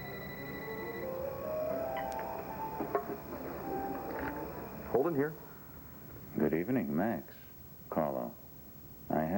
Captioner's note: telephone rings